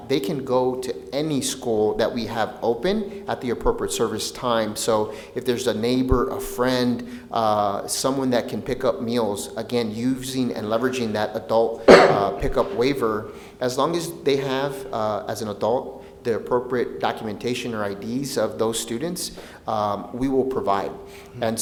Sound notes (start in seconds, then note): 12.4 coughing